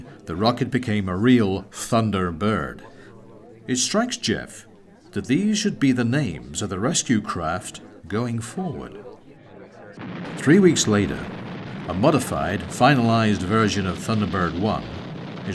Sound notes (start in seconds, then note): 10.0 rocket fire rumbling